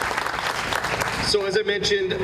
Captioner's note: applause